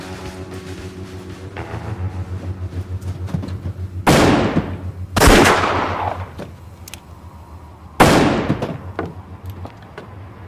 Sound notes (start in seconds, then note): 5.4 gunfire